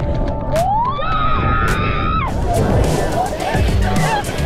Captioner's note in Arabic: صراخ